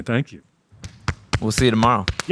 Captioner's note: everyone clapping